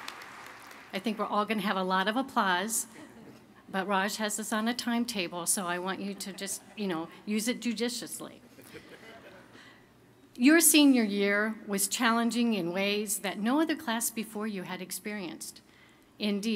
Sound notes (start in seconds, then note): 0.0 applause; 8.5 chuckling